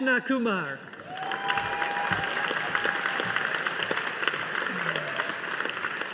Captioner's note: audience applauding